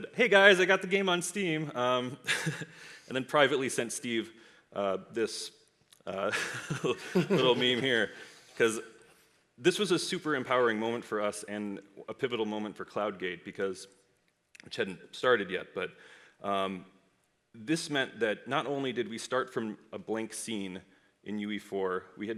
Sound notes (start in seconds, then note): 6.3 audience laughs